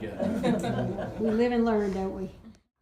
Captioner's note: laughing